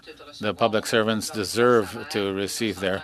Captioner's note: speaking French